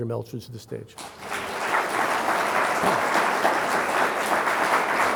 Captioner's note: everyone clapping